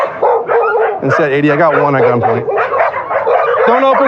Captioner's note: dogs